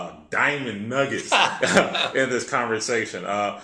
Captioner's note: laugh